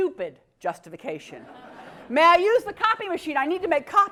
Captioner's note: laugh